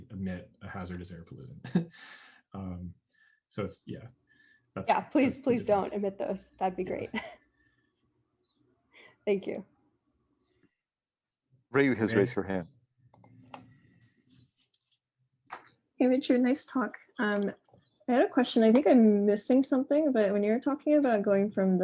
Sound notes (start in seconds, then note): 1.6 chuckles; 7.6 laughs